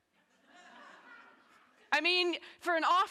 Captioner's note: audience laughing